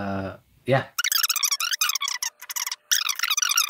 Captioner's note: tape squealing